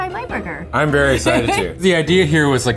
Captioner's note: laughing